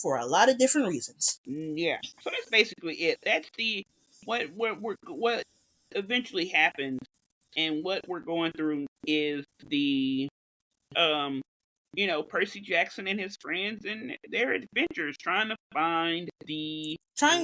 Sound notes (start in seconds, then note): 4.8 stammers